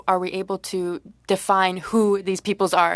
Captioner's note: speaking French